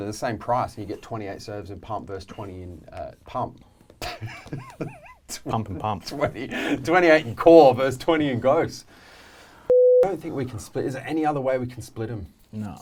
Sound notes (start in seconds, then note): 4.1 laughing